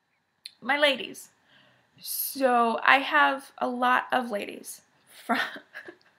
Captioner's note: giggles